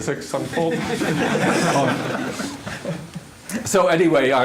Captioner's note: laughter